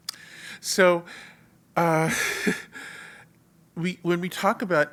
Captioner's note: laugh